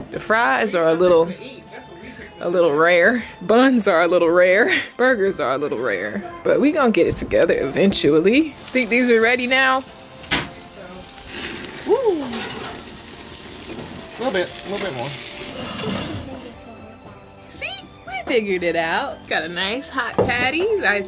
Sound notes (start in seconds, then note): 12.7 patties sizzling